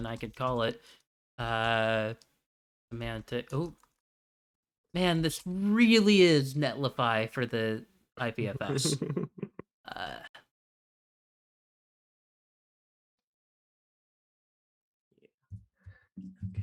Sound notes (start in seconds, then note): 8.7 chuckles